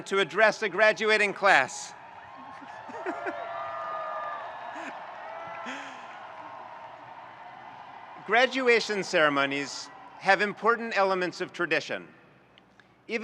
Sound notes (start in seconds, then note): 2.3 audience cheering; 2.3 chuckles